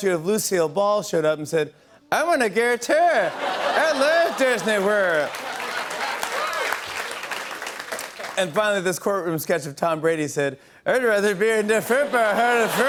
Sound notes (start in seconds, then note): 5.0 laughter and applause